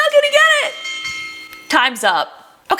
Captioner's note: game dinging